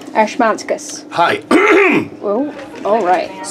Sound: coughs

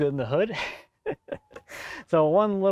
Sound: laughs

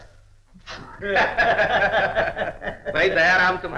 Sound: both Laughing

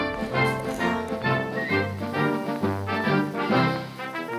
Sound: chopping

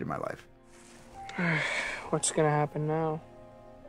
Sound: sighs

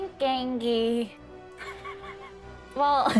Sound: laughing

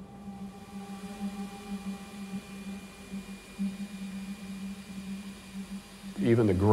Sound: vacuum cleaning

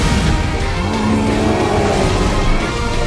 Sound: growling

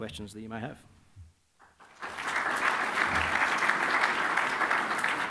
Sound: applause

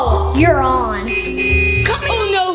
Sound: car honks

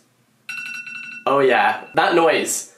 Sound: timer dings

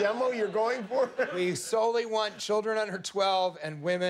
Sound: laughter

